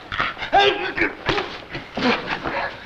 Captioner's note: slapping noise